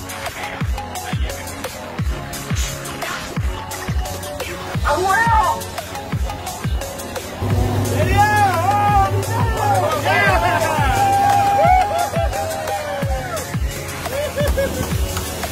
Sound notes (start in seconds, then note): 9.9 cheering